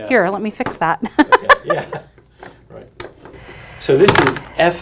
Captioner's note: laughs